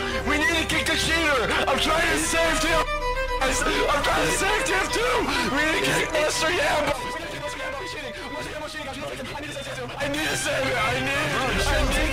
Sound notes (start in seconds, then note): 3.4 crying; 6.9 belligerent ranting